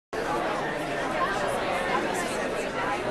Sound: chatter

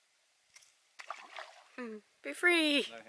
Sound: water splashes

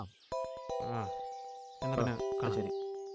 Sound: mobile Phone rings

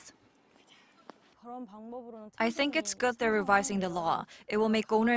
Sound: Korean

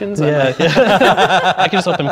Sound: laughing

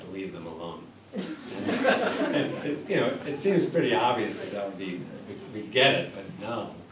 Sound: laughter

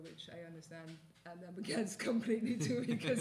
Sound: laughs

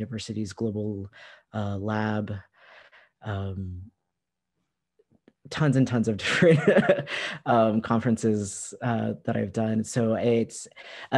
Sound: laughter

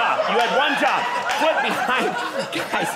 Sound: audience laughing

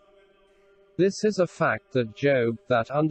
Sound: voice reads

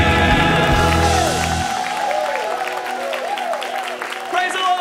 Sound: cheers and applause

